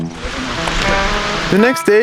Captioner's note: water rushing